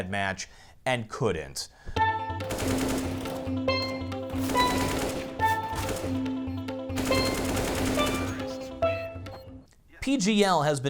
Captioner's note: in game sound and music